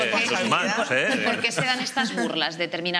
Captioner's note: laughing